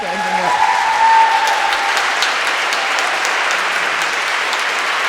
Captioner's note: audience cheering and applauding